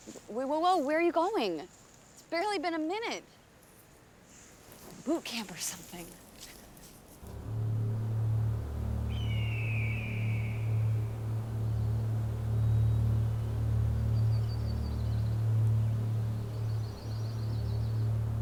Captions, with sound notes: - Whoa whoa whoa, where you going? It's barely been a minute! Boot camp or something. (ominous music) (hawk squawking)